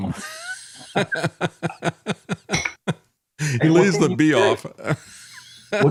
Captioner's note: laughing